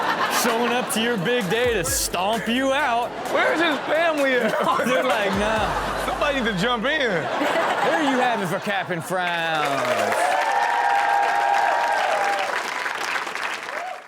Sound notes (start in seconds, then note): 4.5 laughing; 7.6 Chanel and audience laughing; 9.8 audience cheering and clapping